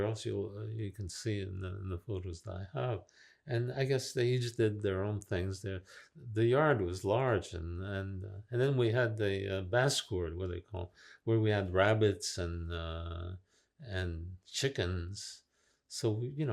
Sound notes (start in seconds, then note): 9.2 french